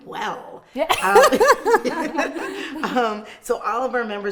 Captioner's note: laughing